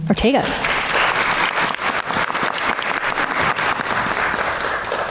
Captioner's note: everyone applauds